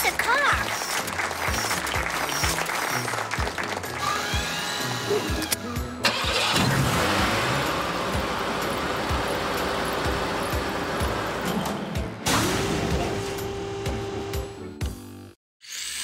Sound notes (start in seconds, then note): 2.8 clapping; 5.9 engine revving